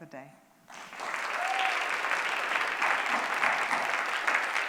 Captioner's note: applause